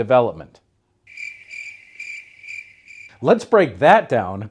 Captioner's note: crickets chirping